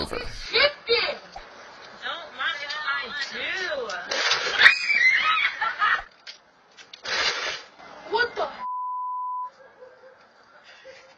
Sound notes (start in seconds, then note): 4.7 kid screaming; 8.6 beep